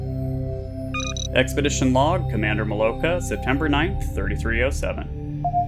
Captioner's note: computer beep